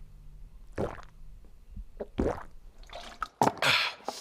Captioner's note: gulping water